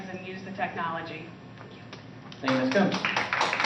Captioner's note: applause